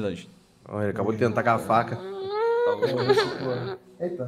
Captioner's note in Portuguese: choraminga